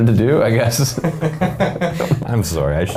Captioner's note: men laughing